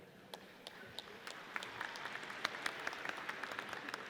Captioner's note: audience applauds